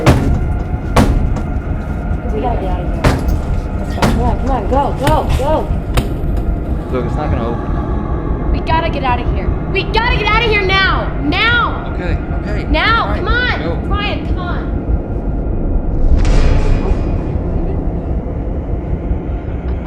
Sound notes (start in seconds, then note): 0.0 hitting; 15.8 dramatic, tense music